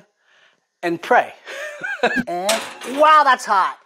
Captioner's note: laughs